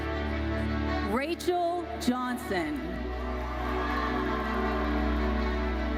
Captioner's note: audience cheers